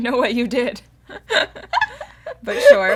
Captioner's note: laughter